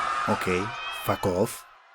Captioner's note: crowd screaming